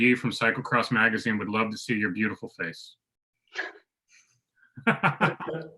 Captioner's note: laughs